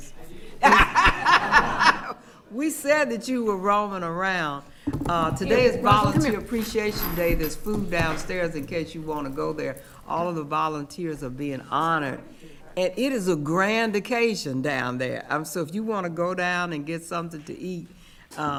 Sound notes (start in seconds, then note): 0.3 attendees laughing